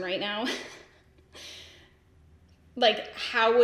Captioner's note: giggles